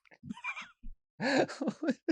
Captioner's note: chuckles